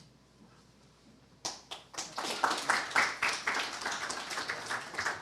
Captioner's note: applause